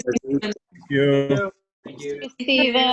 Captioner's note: giggling